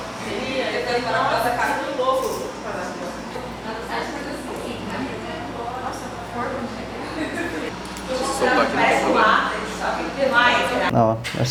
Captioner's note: indistinct chatter